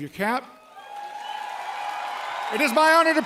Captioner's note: cheering, applause